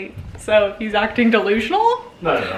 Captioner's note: laughing